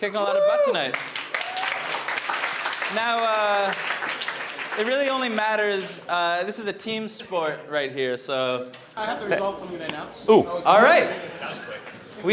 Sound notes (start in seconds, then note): 0.6 audience clapping